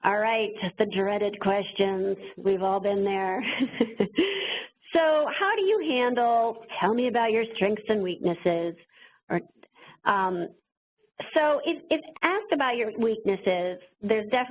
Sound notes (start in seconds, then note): 4.4 laughs